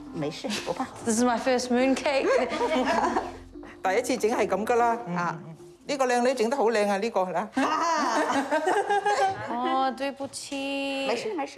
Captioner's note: both chuckle; speaks chinese language